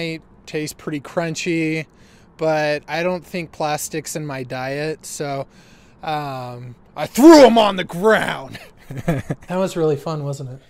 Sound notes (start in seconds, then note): 8.4 laughs